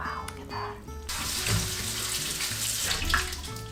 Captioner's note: water rushing; water trickling